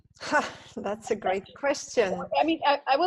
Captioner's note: laughs